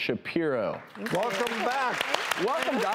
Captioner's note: audience claps